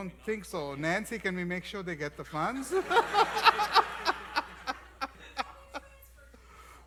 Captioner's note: laughs